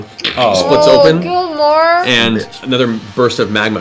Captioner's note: groans